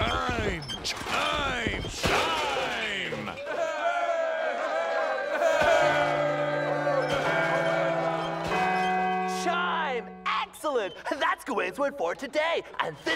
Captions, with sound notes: ( cheering ) ( chimes ringing ) "Chime"! Excellent! That's Gawain's word for today!